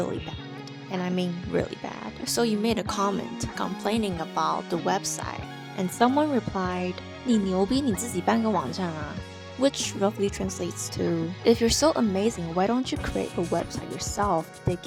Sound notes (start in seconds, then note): 6.6 speaking in Chinese